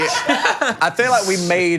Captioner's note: Phil and crew laughing